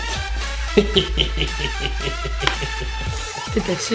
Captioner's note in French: Rire diabolique